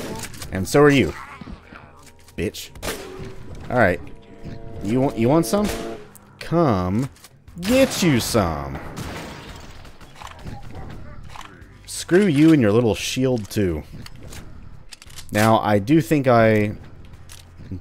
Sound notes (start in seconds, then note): 0.0 chuckles; 0.0 stab; 7.5 bam